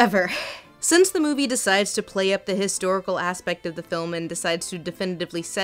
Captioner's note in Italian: voce fuori campo